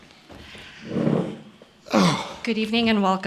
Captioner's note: sighs